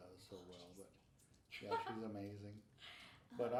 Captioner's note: laughing